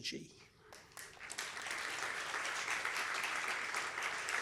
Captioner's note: applause